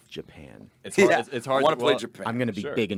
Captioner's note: laughs